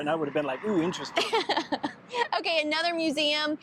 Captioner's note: laughing